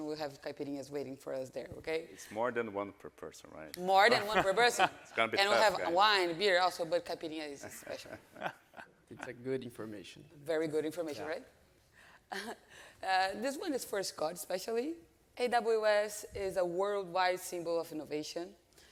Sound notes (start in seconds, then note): 4.0 laughs; 7.6 laughing; 12.7 chuckles